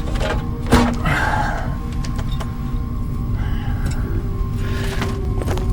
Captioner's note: lid clanks; Hawk groans; suspenseful music